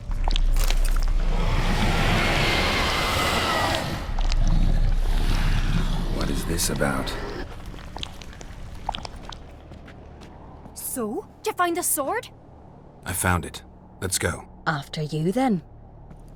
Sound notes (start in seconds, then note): 1.2 ghostly screech; 4.5 faint growling